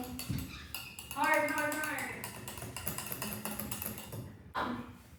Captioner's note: clinking as the beater hits the bowl; clinking continues